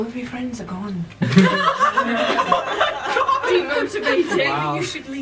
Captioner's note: laughter